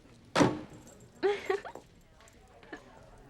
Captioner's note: giggling